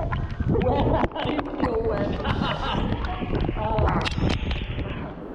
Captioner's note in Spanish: Se ríe